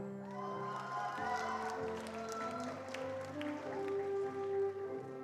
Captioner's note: attendees applauding